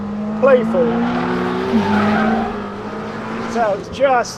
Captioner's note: engine roaring